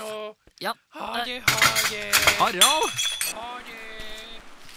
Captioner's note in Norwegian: ting knuser